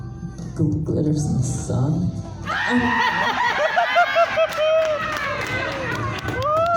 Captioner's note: audience laughs